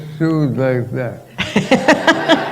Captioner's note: laughter